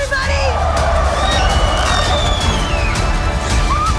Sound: screaming

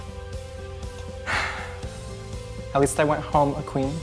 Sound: sighs

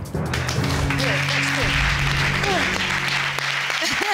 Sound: audience applauding

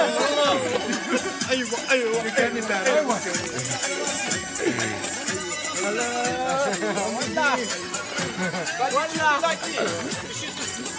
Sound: crowds Laughing

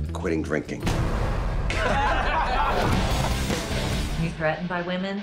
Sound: laughter

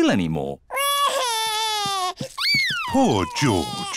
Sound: crying

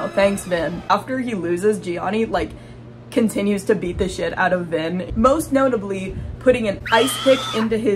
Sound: boom; scream sound

